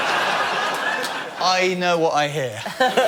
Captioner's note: laughter